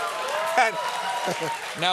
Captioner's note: applause